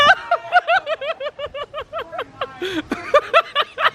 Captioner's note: laughing